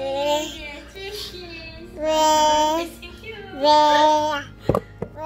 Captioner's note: baby noise